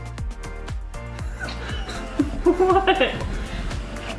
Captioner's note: laughing